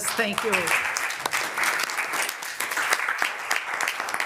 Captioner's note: members applauding